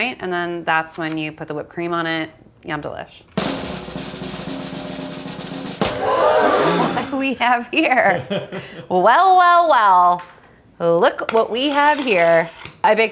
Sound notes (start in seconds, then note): 3.4 drum rolls; 5.8 crowd gasps